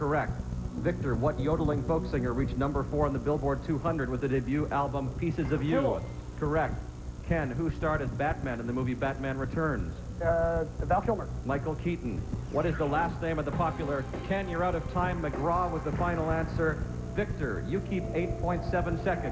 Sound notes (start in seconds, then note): 7.2 10-second bell